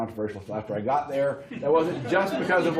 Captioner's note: laughter